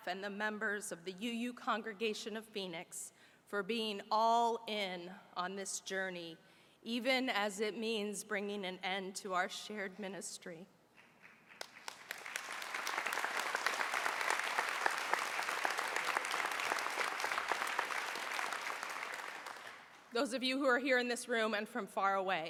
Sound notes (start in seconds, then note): 14.5 applause